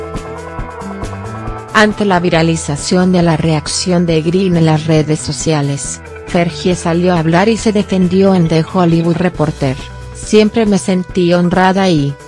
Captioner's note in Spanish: orgullosa